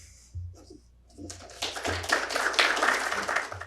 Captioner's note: audience applauding